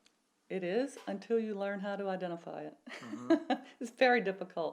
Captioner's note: laughs